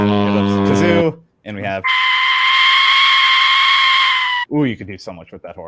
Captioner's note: death whistle screeching; kazoo buzzing